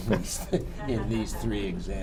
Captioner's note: laughter